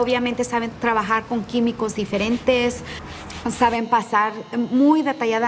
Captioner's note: speaking in Spanish